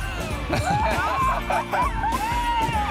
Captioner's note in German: lacht